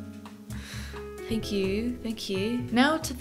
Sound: in a British accent

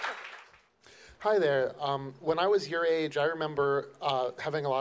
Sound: voiceover

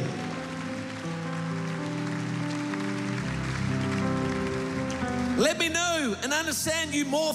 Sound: applause

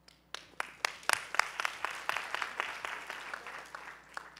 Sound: applause

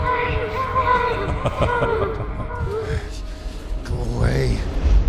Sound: Scarecrow laughs

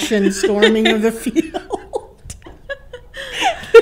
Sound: laughter

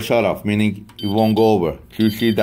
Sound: machine beeps

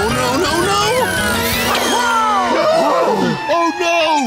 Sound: gasps

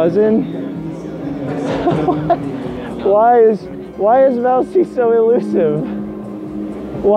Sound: laughing

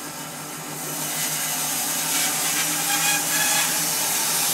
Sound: saw blade whirring

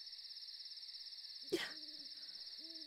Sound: pinkie cries

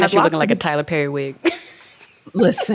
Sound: chuckles

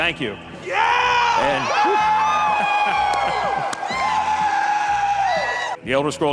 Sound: audience cheering; laughs

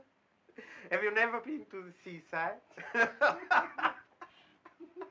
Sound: laughing

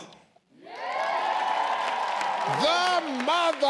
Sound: audience cheering

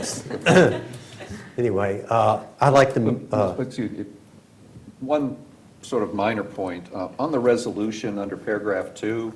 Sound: laughter

